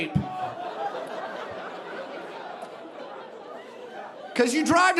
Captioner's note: audience laughing